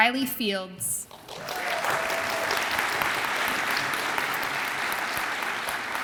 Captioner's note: audience applauds and cheers